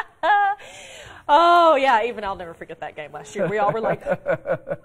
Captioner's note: laughter